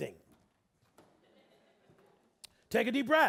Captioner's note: audience laughing